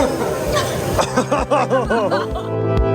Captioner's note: shutters in disgust lmao